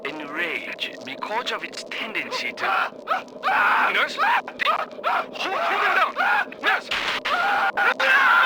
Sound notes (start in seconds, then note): 3.4 Mr. Wallace starts screaming